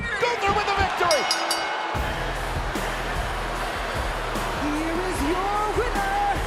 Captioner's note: ring bell clanging